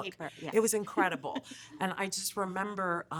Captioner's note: laughing